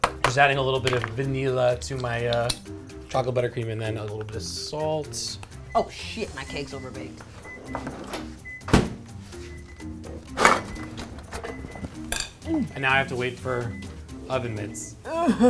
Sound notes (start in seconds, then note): 7.3 oven timer beeping